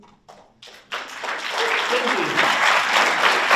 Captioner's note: audience applauds